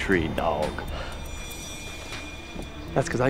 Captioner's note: Nicky scoffing